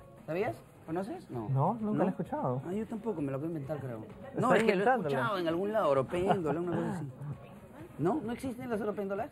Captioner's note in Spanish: risas